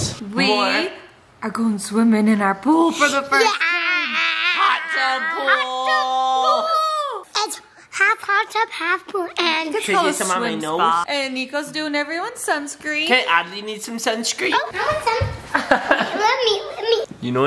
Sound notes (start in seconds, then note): 15.6 laughs